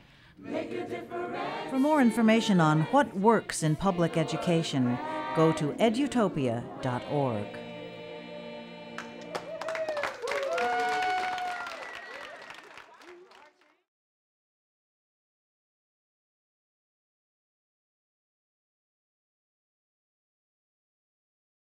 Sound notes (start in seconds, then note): 10.6 song concludes; 14.3 applause and cheers